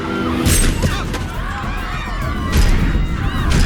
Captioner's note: crowd screaming; guns firing; dramatic music